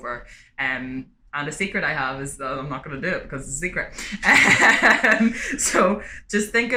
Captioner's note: laughter